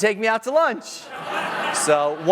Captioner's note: laughter